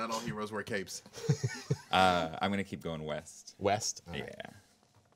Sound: group chuckling

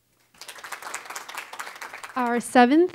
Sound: applause

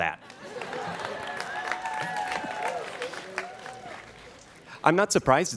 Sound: students cheering

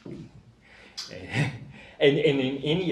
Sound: laughs

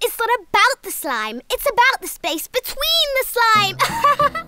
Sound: laughs

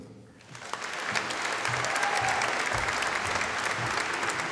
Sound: audience applauding

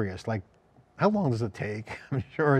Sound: chuckles

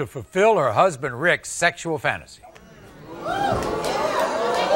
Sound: audience gasping

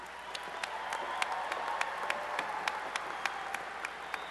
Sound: applause and cheering

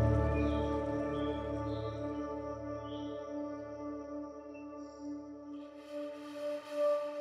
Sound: birds singing; gentle music

